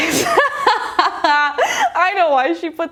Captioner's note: laughs